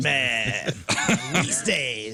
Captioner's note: laughter